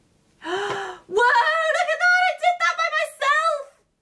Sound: gasps

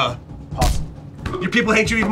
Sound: stamp thuds

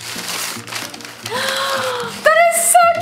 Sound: gasps

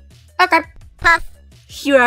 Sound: poof

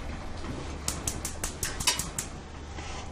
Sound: oven clicking on

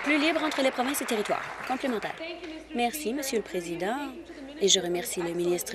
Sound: applause

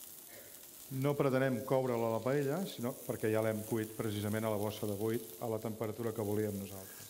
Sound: speaking catalan

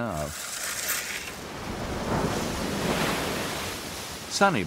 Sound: shovel scraping

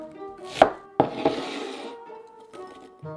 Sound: bowl sliding

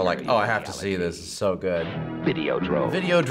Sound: voice-over

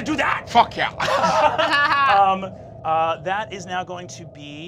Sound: laughing

